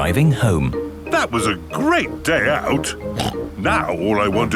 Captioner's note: snorts